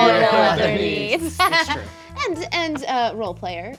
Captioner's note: laughing